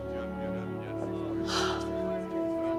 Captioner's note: sighs